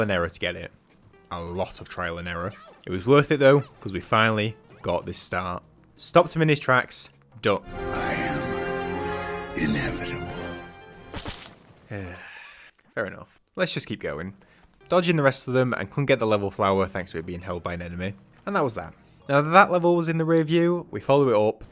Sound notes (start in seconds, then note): 9.2 Thanos Voice: “I am inevitable”